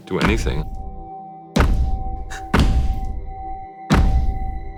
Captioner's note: thumping intensifies